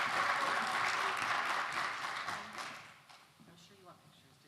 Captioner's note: applause